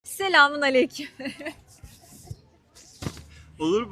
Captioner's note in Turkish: kahkaha